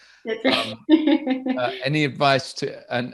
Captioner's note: chuckles